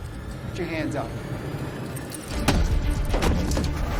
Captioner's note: smacking; intense music